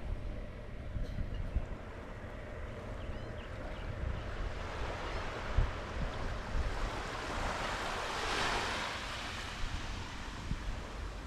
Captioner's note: bird sounds; wave sounds